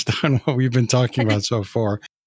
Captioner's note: chuckles